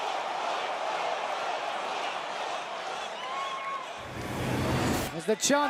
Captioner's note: fans chanting